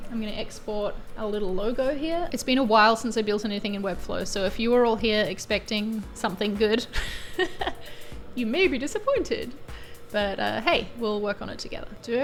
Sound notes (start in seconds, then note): 6.8 chuckles